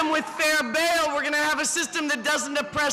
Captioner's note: cheering